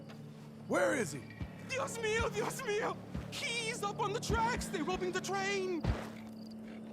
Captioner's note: in Spanish